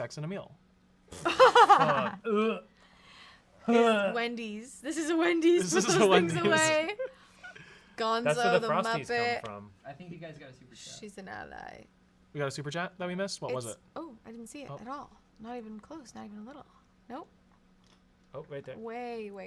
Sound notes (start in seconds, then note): 1.1 gags; 1.2 laugh